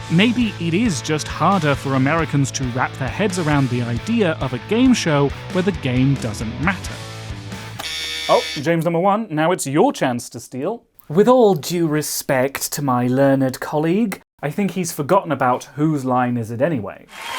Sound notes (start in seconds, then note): 7.8 buzzer